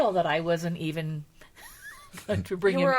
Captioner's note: laughing